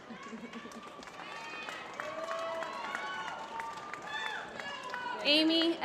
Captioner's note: applause